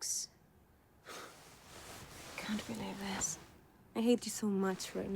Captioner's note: scoffs